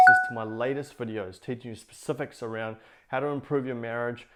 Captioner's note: icons bing